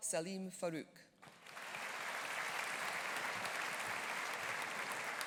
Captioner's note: audience applauding